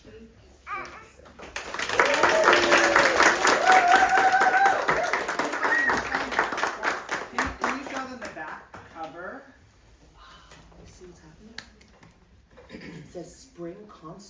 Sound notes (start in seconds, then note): 1.4 applause